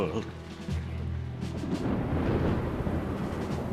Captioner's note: thunder rumbles